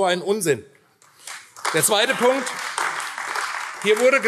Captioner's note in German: Beifall AfD